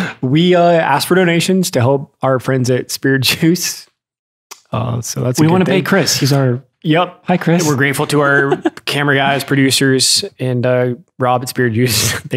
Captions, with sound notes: We ask for donations to help our friends at Spirit Juice, so that's kinda- - We wanna pay Chris. He's our- - Yep. - Hi, Chris (laughs). - We're grateful to our camera guys, producers, and Rob at Spirit Juice.